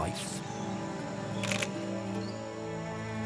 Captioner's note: camera clicks